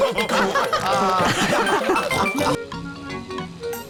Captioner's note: all laughing